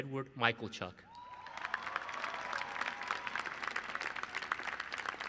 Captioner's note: applause